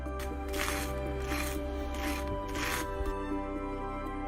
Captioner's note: toaster springing; butter knife scraping